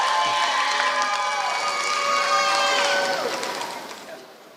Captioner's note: applause